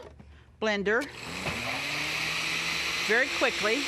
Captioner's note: blender whirring